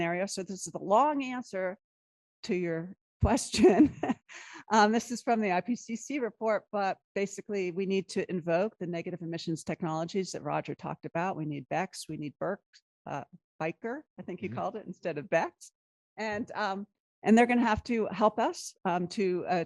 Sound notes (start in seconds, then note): 3.5 laughter